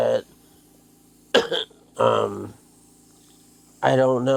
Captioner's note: coughing